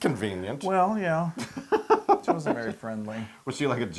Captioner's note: laugh